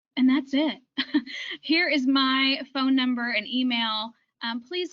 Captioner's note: chuckles